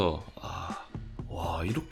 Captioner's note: deep sigh